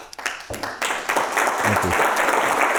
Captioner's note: people clapping